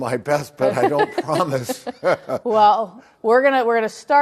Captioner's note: both laugh